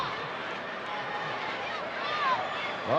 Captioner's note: crowd yelling